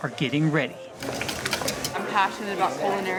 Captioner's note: whisking eggs